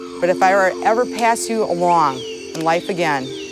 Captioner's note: soundbite of tv show, "survivor"